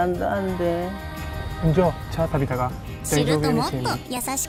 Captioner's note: spoken in Shimakutuba